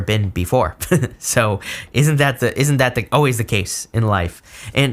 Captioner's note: chuckles